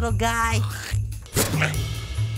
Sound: spit

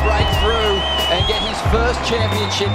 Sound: horn blares

